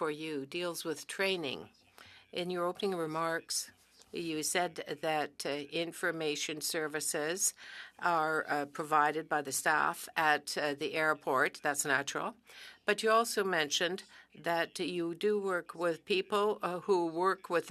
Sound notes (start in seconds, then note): 4.4 speaking French